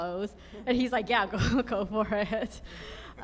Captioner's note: laughs